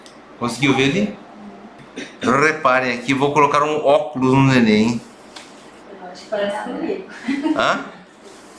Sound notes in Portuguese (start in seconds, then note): 1.2 murmúrio de afirmação; 7.1 risos